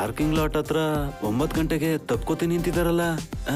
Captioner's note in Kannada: none